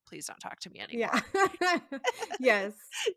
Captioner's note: laughs